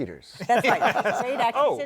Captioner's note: laughter